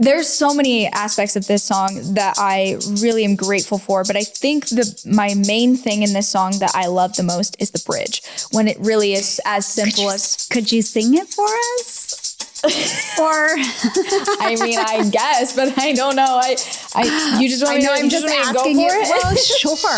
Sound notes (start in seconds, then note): 12.5 laughs